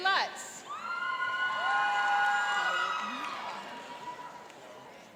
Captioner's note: cheering and applauding